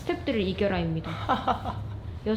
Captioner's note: incomprehensible laughter